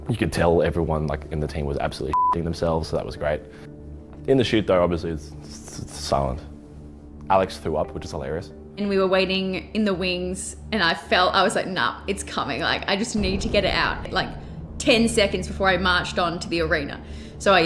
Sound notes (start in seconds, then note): 2.1 beep